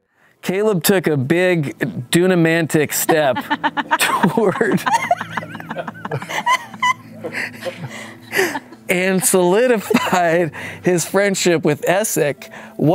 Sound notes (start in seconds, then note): 6.1 laughing